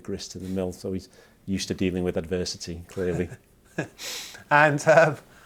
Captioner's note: laughs